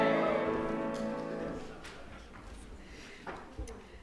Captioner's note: song ends; cheers